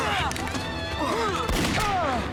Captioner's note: grunting; gun firing